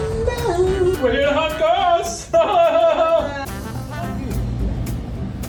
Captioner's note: laughing